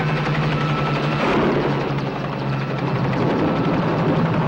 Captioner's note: gunshot pops